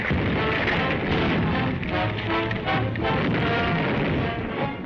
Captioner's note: masonry thudding; explosion booms